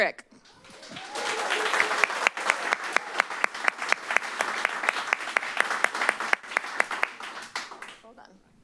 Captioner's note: applause